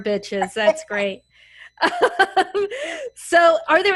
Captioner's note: laugh